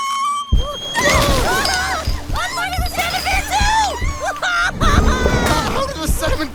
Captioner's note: crash!